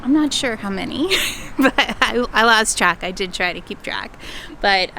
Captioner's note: laughs